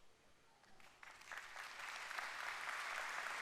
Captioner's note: applause